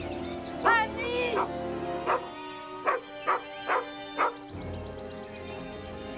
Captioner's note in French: Aboiement de chien